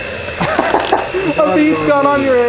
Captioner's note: laughs loudly